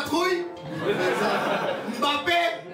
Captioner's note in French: rires